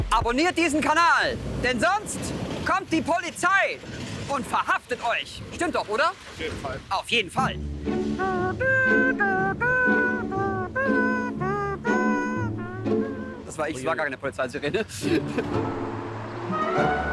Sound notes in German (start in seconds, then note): 8.6 mach Sirenengeräusche